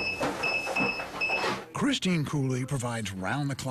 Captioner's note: beeping